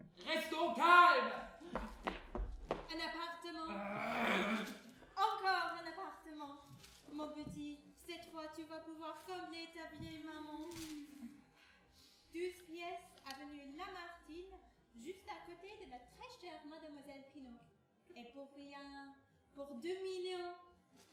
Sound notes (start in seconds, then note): 3.6 groan